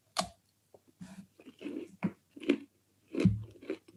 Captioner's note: bites and chews